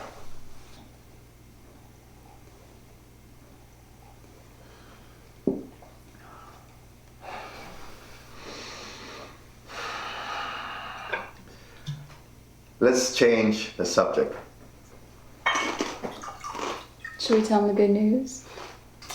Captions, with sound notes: (Ramon sighing) - Let's change the subject. (rum trickling) - Should we tell him the good news?